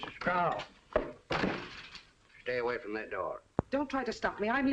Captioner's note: door slams